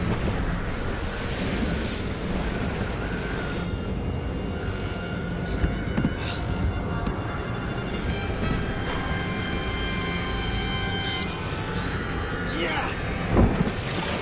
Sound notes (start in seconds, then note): 12.4 grunts